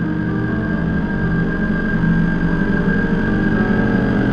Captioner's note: helicopter buzzing